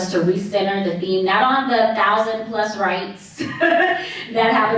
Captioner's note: chuckles